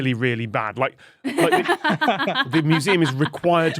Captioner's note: laugh